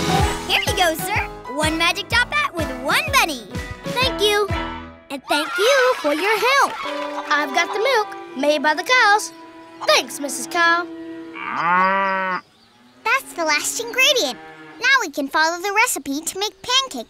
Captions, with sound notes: Here ya go, sir, one magic top hat with one bunny. Thank you. And thank you for your help. I've got the milk made by the cows. Thanks, Mrs. Cow. [mooing] That's the last ingredient. Now, we can follow the recipe to make pancakes.